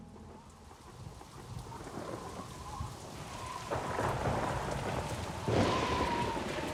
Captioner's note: thunder claps; strong wind blows